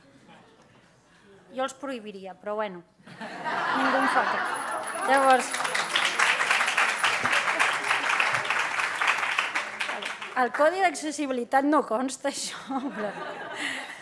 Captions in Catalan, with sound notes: Jo els prohibiria, però bueno, ningú em fa cas [riures] [aplaudiments] Al codi d’accessibilitat no consta això? [riures]